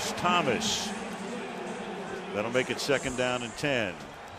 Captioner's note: pa announcement